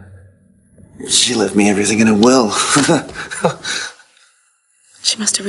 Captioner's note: laughs